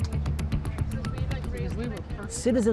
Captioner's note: people talking in background